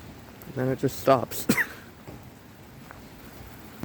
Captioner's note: laughs